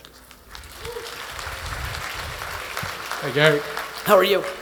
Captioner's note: attendees applauding